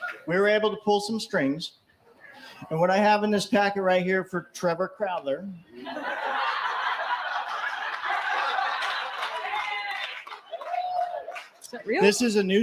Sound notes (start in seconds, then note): 8.3 laughter